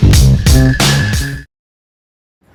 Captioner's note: music cuts out